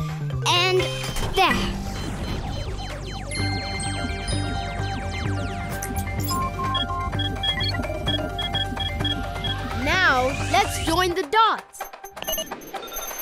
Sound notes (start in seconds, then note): 1.7 beeping; 3.7 tinkling; 6.4 beeping; 11.8 beeping